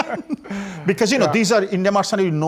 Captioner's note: laughing